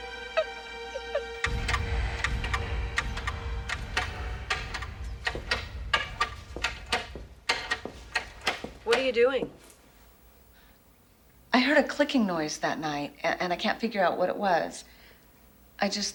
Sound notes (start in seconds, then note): 0.1 tense music; 1.4 clattering